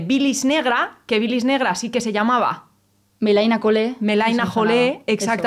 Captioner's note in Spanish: Habla en griego